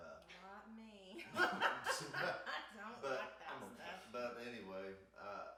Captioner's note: laughs